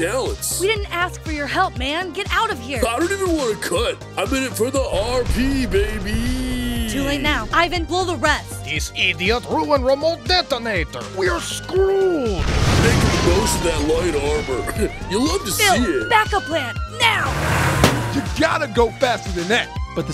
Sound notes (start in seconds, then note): 12.4 explodes; 12.8 police siren wails